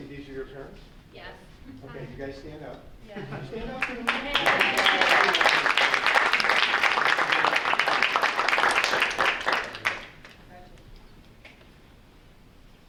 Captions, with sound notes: >>And, Lexi, these are your parents? >>Yes. >>Okay, you guys stand up. Stand up! (group applauding)